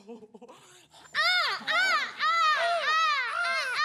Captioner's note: bird noise